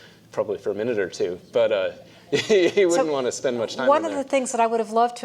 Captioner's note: laugh